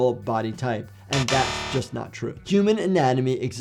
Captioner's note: buzzer buzzes